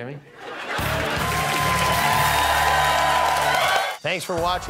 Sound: cheering

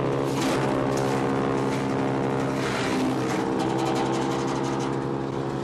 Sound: chipper continues grinding

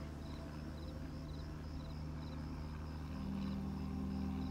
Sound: airplane hums overhead

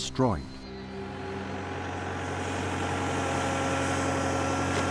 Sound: plow engine revving

